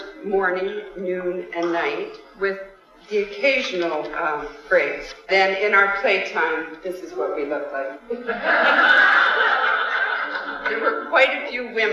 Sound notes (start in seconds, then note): 8.2 audience laughter